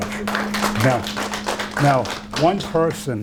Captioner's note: applause